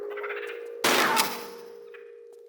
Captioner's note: bam